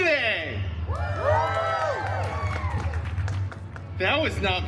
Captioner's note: guests cheering and applauding